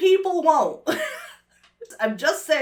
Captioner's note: laughs nervously